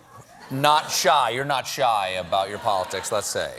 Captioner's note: deep breath